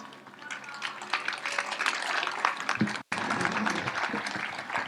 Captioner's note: audience applauds